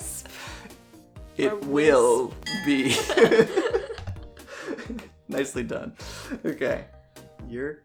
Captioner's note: laughs at bad pun